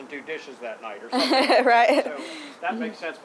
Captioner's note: laughing